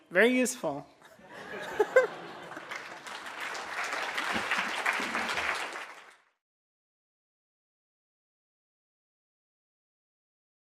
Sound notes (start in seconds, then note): 1.0 laughter; 1.4 audience applause